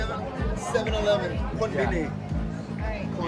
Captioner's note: speaking spanish